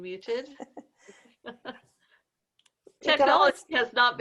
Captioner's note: women laughing